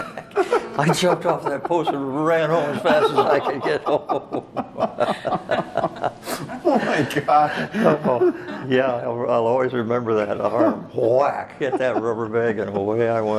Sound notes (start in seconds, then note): 6.7 all laugh